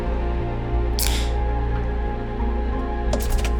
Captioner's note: can pops